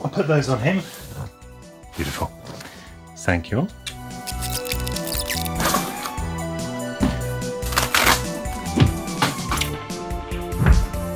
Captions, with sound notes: I'll put those on him, beautiful. Thank you. (tape skipping forward) (paper tearing)